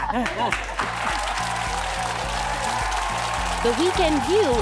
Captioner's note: applause